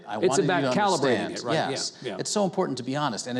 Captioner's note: none